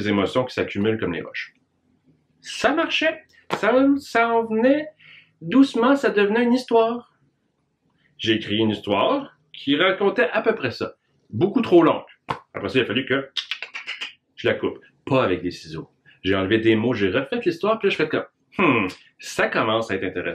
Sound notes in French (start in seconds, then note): 13.4 Bruit de découpage